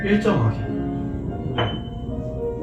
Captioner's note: ding!